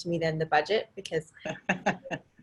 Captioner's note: multiple people laughing